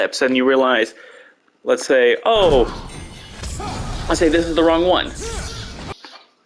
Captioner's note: clip playing, Black Adam makes a combat noise; more combat noises